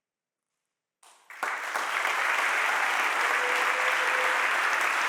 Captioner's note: audience applauding